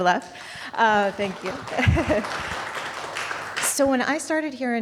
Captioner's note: audience applauding; chuckles